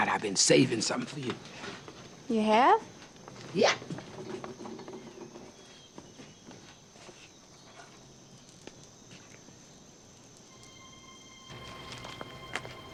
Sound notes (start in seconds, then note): 4.8 birds chirping outside; 10.4 gentle music